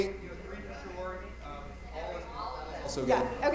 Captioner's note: mic cutting out